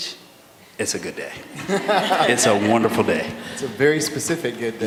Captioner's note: laughter